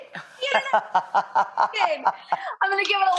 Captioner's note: both laughing